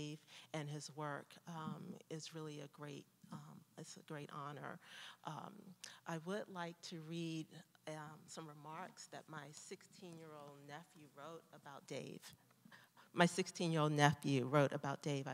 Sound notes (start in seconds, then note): none